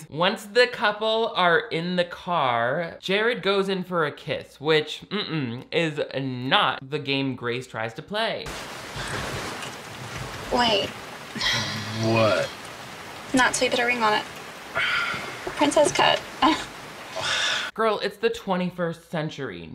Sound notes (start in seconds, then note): 8.5 rain pelting; 14.7 sighs; 15.6 laughs